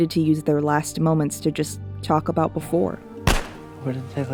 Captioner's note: gunshots